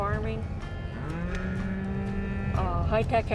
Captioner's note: cows mooing